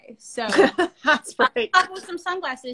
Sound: laughs

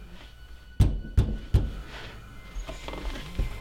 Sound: knocking

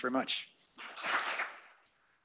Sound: applause

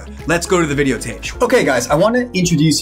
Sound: graphics swish

